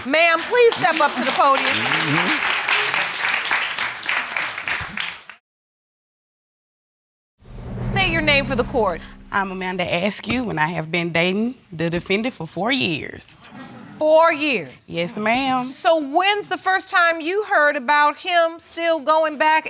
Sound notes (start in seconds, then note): 2.0 audience clapping